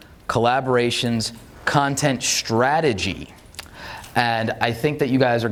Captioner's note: none